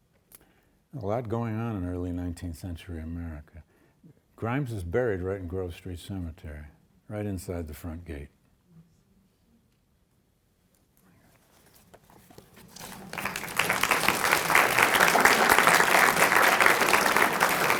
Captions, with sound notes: A lot going on in early 19th century America. Grimes is buried right in Grove Street Cemetery, right inside the front gate. (audience applauding)